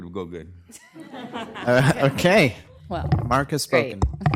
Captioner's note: laughter